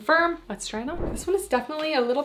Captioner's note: screen whooshing